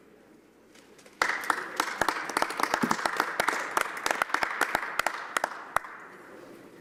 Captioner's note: applause